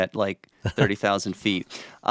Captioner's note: laughs